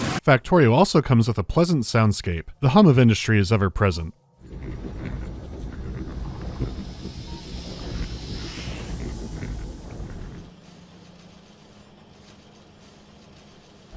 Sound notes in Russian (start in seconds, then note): 4.4 несмолкающий, низкий гул производства, шипение выбросов; 10.4 деловитое щебетание механизмов